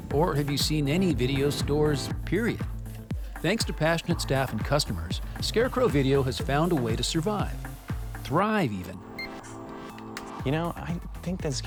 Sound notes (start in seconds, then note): 9.1 computer beeps